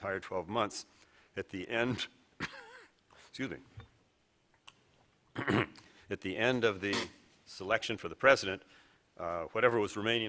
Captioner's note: coughcoughs